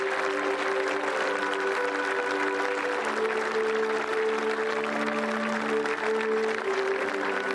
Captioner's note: applause